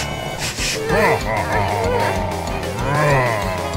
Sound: sniffing; growling

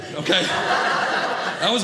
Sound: audience laughing

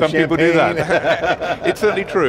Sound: both laughing

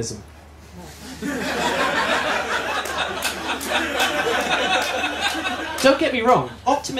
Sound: laughter

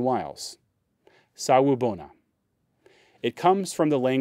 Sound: speaking in foreign language

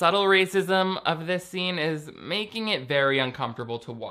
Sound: none

